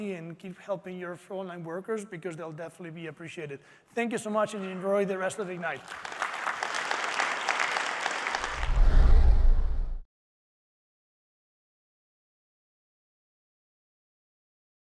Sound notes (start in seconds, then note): 4.4 applause